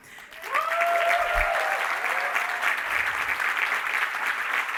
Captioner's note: crowd cheering